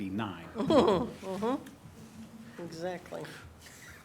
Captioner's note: laughter